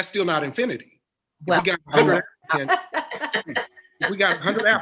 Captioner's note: laughing